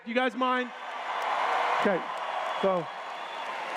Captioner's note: cheers